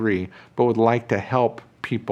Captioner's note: none